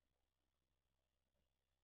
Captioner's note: none